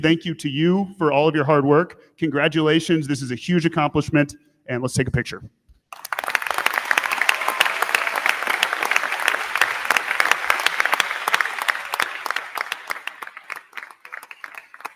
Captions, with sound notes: Thank you to you for all of your hard work. Congratulations. This is a huge accomplishment, and let's take a picture. (crowd cheering) (crowd clapping)